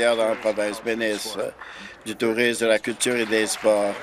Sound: applause

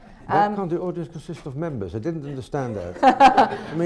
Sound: laughs; laughter

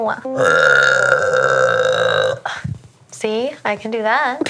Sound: burps loudly

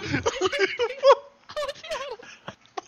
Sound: literally crying

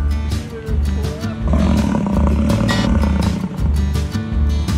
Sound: upbeat instrumental music plays; buffalo grunts

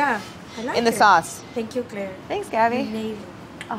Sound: none

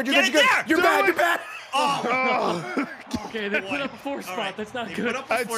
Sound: laughs

